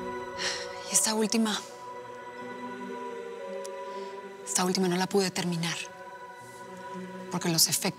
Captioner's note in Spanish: exhala